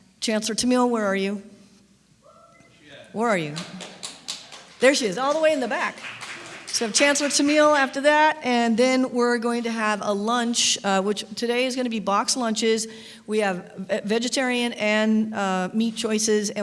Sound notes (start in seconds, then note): 3.4 clapping; 3.5 cheer